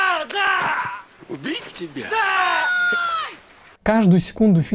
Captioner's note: scream